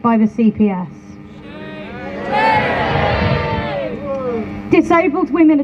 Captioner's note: crowd Boos